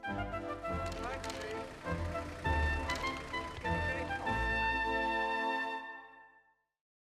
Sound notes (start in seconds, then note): 0.7 cameras clicking; 1.6 regal music